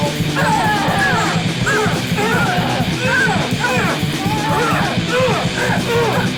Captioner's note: all grunting; loud rock music